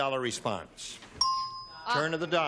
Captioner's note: ding